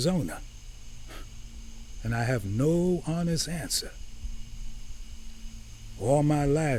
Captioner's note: scoffs